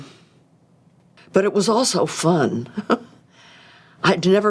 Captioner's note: chuckles